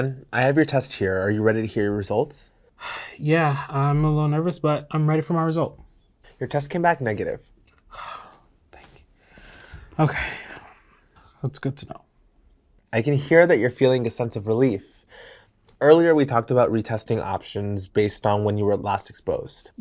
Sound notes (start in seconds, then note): 7.9 breath of relief